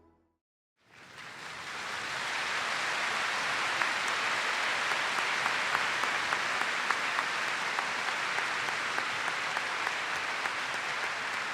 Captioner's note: applause